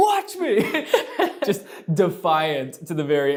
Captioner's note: laughing